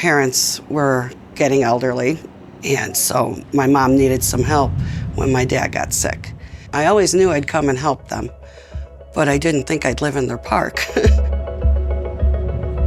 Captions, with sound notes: parents were getting elderly and so my mom needed some help when my dad got sick. I always knew I'd come and help them, but I didn't think I'd live in their park. [ CHUCKLES ]